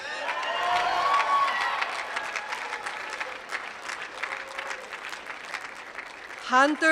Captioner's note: applause